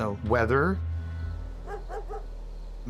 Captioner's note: dog barking